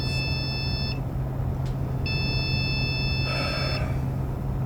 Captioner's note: sighing